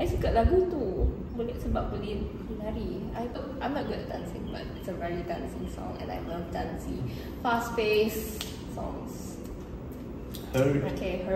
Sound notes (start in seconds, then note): 8.3 snaps fingers